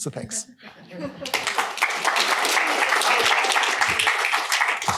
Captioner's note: applause